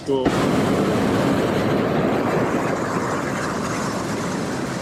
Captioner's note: hot air balloon roaring